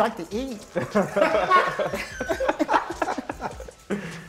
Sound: laughter

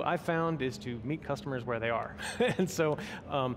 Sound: laughs

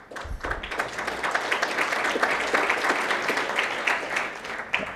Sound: applause

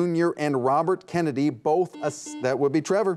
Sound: buzzer beeps

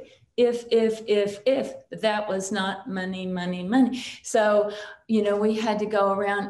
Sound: none

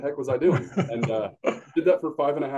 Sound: laughs

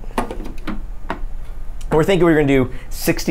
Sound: machine lid banging

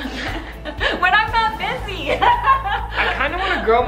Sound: laughs

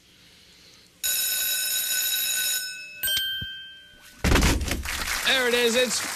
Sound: bell rings

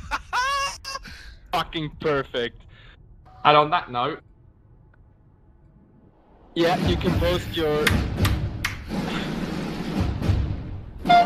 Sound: laugh

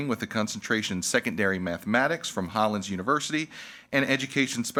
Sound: none

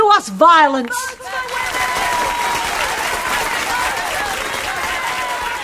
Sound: cheers in the hall

